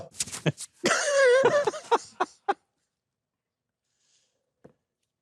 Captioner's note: hosts laughing